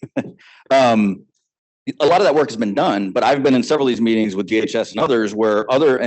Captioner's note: laughing